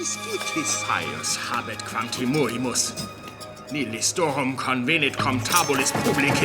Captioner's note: man speaking foreign language